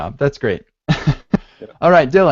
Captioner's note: laughs